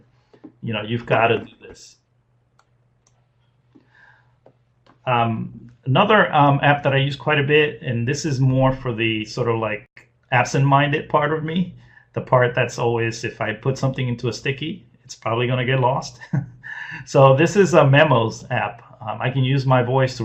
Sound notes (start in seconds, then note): 16.6 laughs